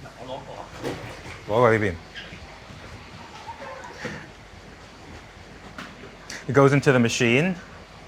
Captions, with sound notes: [speaking in foreign language] It goes into the machine.